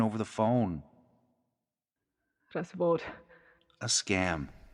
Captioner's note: Russian